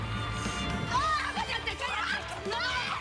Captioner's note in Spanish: gritos